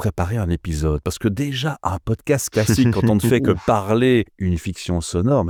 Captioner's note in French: Rires